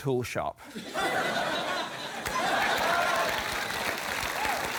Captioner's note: laughter, applause